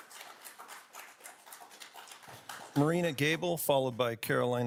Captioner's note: audience applauding